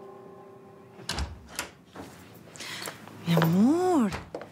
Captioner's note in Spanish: ruido de la puerta